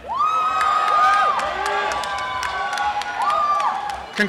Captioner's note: cheering and applause